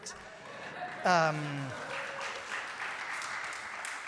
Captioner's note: applause